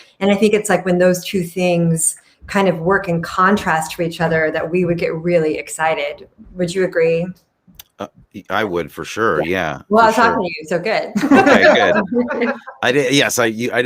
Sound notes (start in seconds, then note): 11.2 everyone laughs